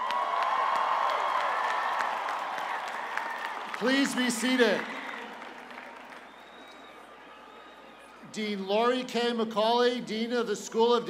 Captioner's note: cheers and applause